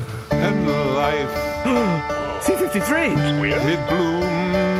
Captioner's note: singing; gasps